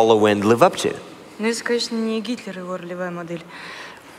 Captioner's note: foreign Language